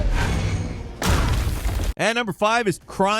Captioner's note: body slams